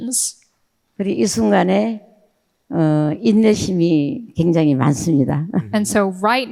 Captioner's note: speaking in foreign language